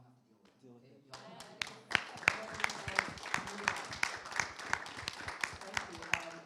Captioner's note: applause